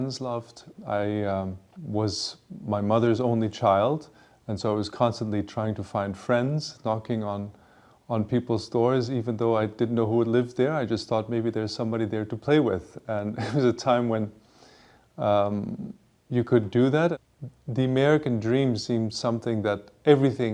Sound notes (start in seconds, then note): 13.2 chuckles